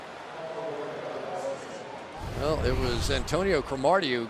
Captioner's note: announcer on loudspeaker